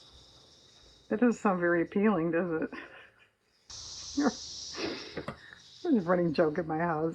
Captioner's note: laughs